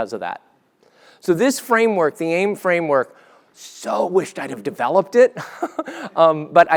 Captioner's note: laugh